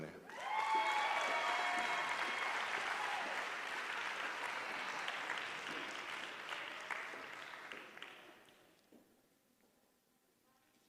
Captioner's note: applause